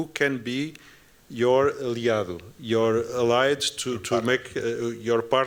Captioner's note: non-english speech